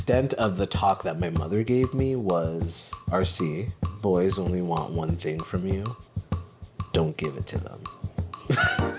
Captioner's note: laughs